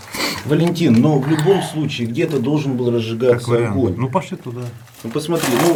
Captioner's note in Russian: фыркает